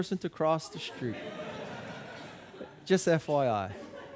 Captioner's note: audience laughing